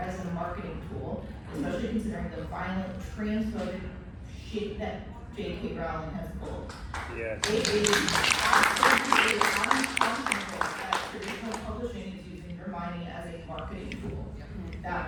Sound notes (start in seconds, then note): 6.7 applause